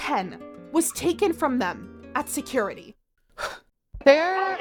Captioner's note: deep breath